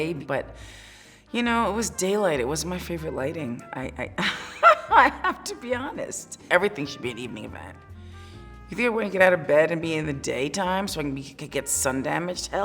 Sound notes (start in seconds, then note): 4.2 laughing